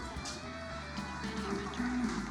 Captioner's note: whispers